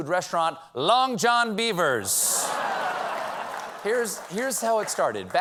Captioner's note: laughter